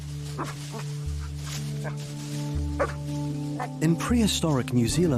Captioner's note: Rain barks